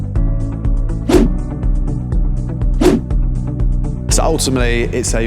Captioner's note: scene whooshing